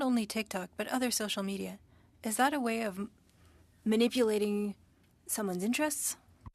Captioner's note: speaking French